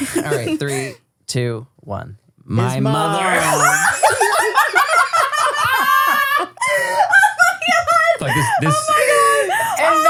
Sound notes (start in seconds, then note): 3.2 everybody laughs